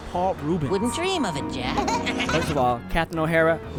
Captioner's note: trick-or-treaters laugh